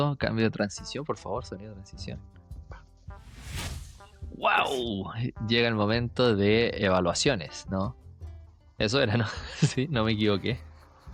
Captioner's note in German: Übergangsgeräusch